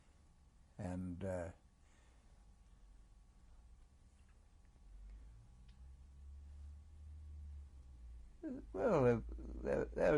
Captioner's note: pauses for 7 seconds